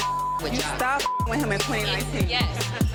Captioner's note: beep